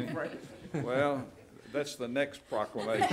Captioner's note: laughs; laughing